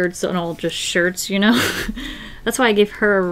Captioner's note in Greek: Γέλια